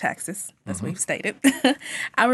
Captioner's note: chuckles